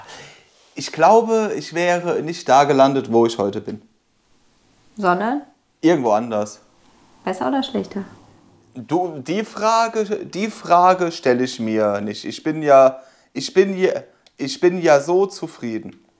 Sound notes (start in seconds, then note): 8.7 haltingly; 12.2 slightly stuttering